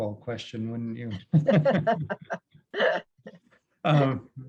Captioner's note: both laugh